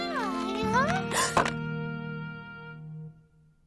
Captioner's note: gasping